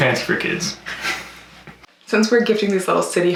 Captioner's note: both laugh